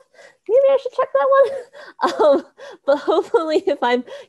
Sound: laughs

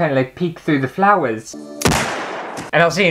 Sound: bang!

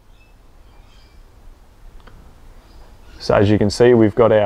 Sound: birds chirping

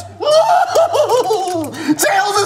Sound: laughs

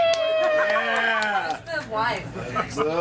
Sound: ALL СНЕЕRlNG

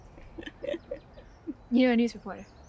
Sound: Michelle laughing

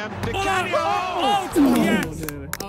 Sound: players shout

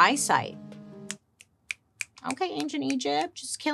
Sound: snaps

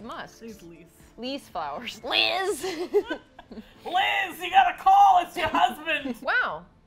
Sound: both laugh

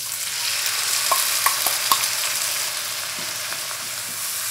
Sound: pan sizzling more

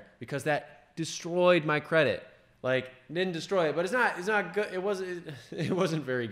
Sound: laugh

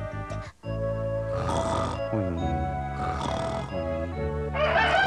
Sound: whimpering; snoring; rooster crowing

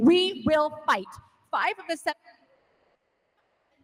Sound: speaking off mic

